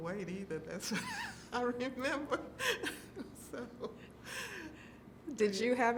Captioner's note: laughing